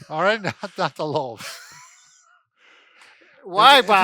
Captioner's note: laughs